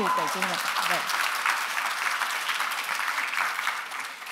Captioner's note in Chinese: 掌聲